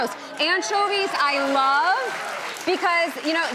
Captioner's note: crowd cheering